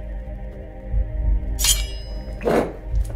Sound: blade clanging; Ezra gurgling; ominous music

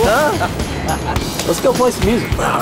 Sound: laughter

